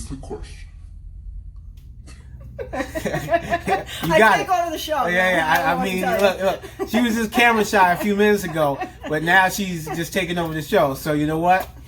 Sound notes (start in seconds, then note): 2.7 both laugh; 5.0 laughs